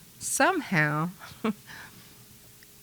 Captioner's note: chuckles